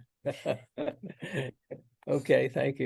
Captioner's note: panel laughs